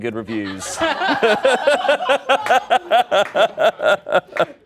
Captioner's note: audience laughs